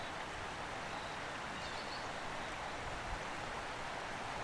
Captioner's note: birds singing